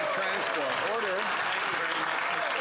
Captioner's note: applause